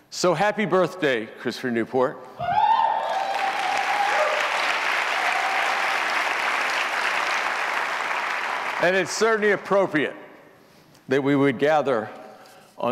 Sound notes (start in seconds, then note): 3.0 audience applauds